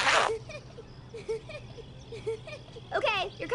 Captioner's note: town female pervert giggles at postal dude